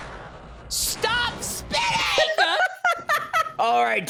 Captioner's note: laughs